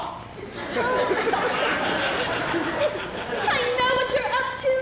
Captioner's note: laughter